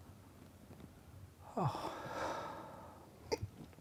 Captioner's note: long sigh